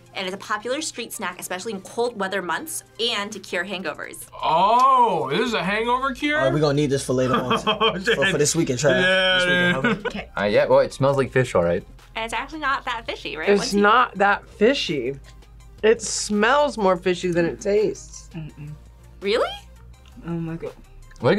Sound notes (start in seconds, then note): 9.7 laughs